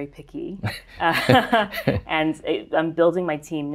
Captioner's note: laughs